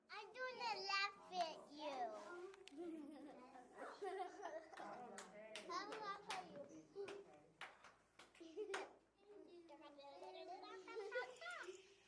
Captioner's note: sounds of children in the classroom